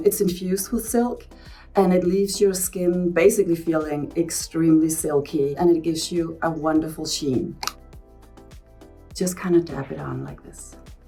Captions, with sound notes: It's infused with silk, and it leaves your skin, basically, feeling extremely silky, and it gives you a wonderful sheen. [cap clicking] Just kind of dab it on like this.